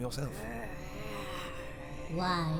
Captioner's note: spiteful moan